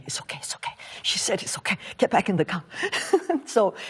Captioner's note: laughs